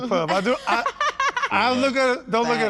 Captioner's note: laughs